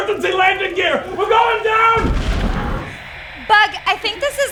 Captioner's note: static; thud